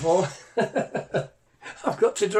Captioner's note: laughs